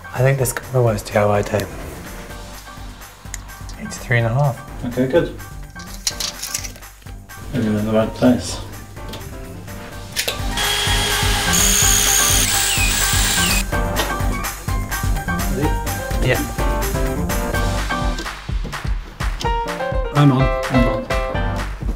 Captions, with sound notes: I think this could be my worst DIY day. 83 and a half. - Okay good. Means we're in the right place. (drilling noises) Ready? - Yeah. I'm on. - I'm on.